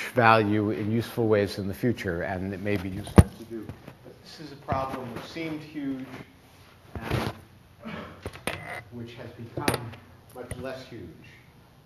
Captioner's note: microphone falls off